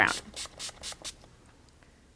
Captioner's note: spraying sounds